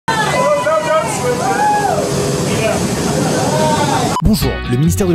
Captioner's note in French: Cris et bruits des gens